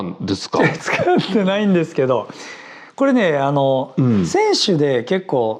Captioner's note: laughs